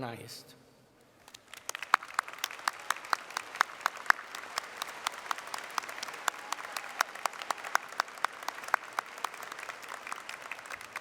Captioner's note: applause